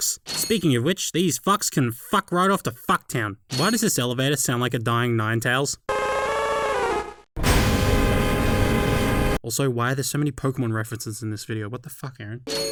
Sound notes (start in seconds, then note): 5.7 The sound of a Ninetails fainting; 7.3 the sound of said elevator